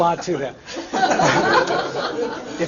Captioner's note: laughter